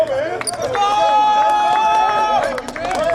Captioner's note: team cheers and applauds